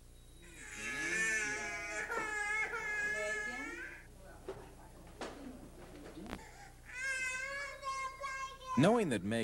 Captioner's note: child crying